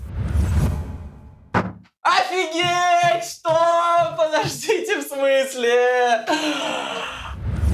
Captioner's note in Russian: кричит за дверью